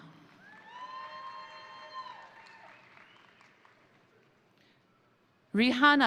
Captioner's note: crowd applauding; crowd cheering